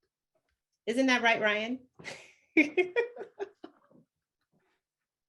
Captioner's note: laughing